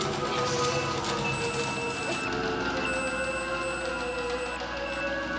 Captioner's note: high-pitched feedback beeping